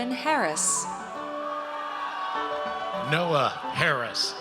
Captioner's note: audience cheers